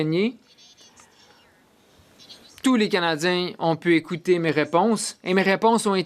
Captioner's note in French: voix de l'interprète